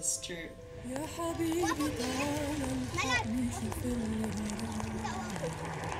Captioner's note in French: Arab spoken audio